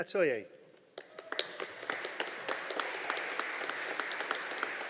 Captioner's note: audience applauding